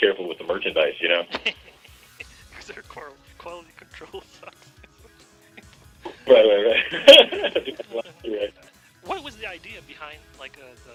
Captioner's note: laughs